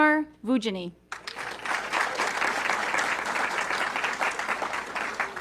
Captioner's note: audience clapping